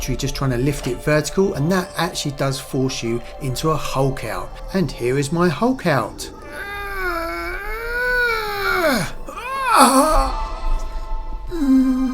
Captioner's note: growling